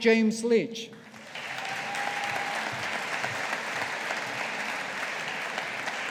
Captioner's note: audience applauding